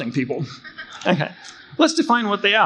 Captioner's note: crowd chuckling